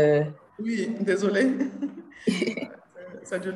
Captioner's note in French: petit rire